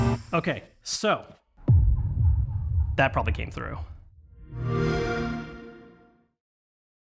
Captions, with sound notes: Okay so, that probably came through [XBOX SOUND]